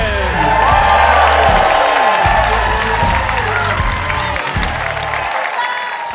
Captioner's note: audience cheering